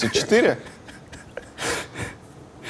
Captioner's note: poorly stifles laughter